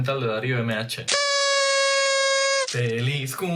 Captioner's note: whistle